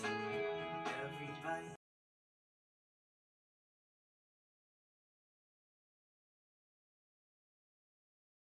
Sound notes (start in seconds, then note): 0.0 sound of TV in background; 1.5 sound of editing